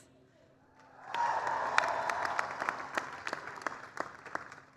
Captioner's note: applause